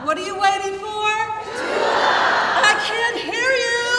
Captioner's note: crowd